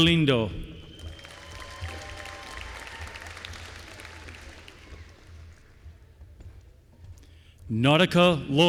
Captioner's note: applause